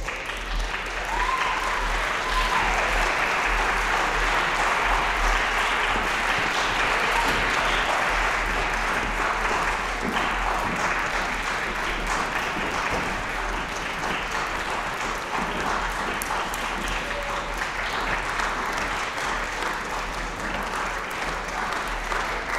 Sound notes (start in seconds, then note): 0.1 applause, cheering; 5.5 applause